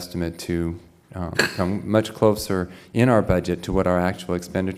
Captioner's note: cough